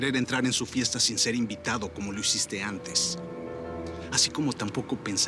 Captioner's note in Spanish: none